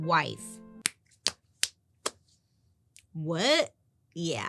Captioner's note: hands clapping